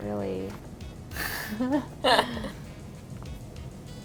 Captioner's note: laughing